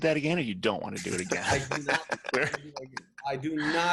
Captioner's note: laughing